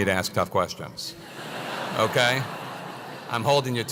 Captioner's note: laugh